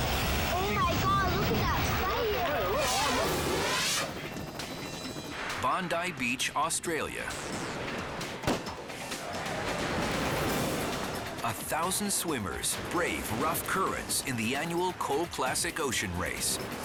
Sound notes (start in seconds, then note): 2.6 air whooshes; 3.9 helicopter blades chopping; 4.2 pulsing upbeat music; 7.3 gun fires